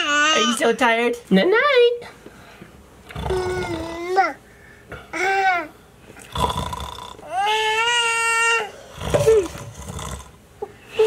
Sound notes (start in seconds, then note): 3.2 coos; 3.3 snores; 7.4 cries